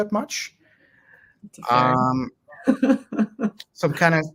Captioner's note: chuckles